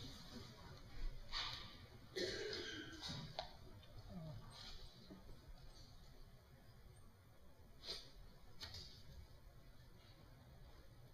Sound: pause in speaking

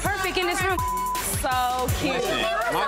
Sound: beep

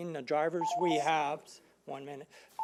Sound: alarm beeping

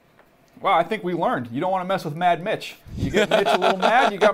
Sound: laughs

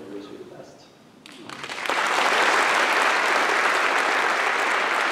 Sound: applause

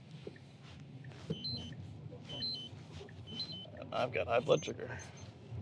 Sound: alarm sounds

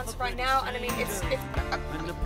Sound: stuttering

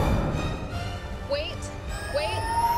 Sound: device powering up

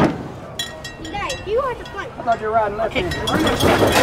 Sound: bell clanking

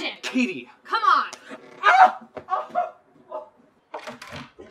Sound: painful screams

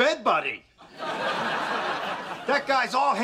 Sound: laughs

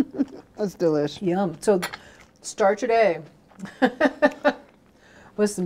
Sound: laughing; laughing

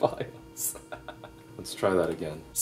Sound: chuckles

